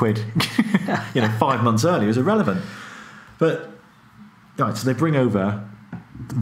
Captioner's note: laughing